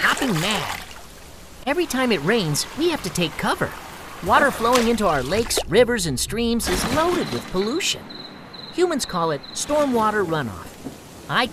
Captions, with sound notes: that make me hopping mad. [frogs splash into water] Every time it rains, we have to take cover. Water flowing into our [water splash] lakes, rivers, and streams is loaded with pollution. Humans call it, stormwater runoff.